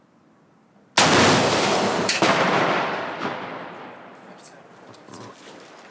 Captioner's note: rocket explodes twice